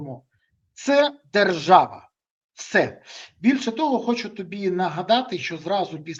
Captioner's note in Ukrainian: сопіння